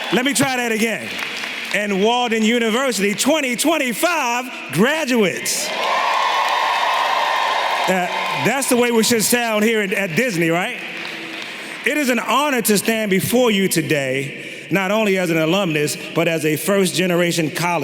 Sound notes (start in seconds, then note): 5.6 everyone clapping and cheering